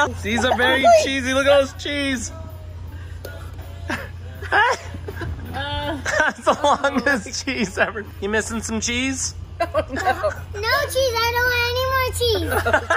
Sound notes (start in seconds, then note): 3.7 laughs; 12.4 laughing